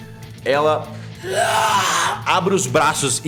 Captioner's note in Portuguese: Grunhido